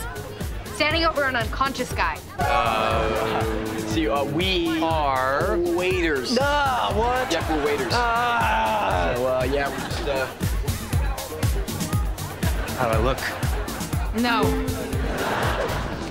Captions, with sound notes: Standing over an unconscious guy? Uh... - See, uh, we- - Are- - Waiters. - Uh, what? Yeah, we're waiters. [groaning] Well, yeah, we're just, uh- How do I look? No.